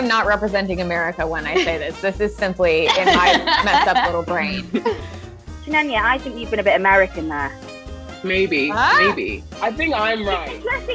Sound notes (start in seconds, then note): 2.8 laughing